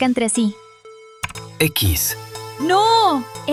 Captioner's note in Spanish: tecleo